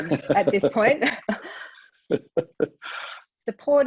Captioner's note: laugh